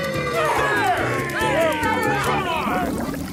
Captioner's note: screaming insults